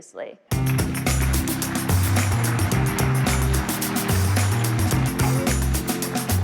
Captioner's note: concluding music; applause